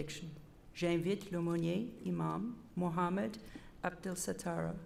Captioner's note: repeated in French